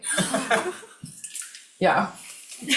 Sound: students laughing

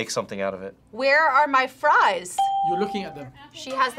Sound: bell rings

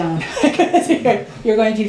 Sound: laughs

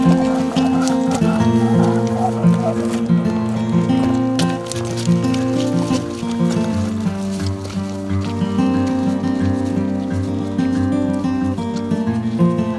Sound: sound of footsteps

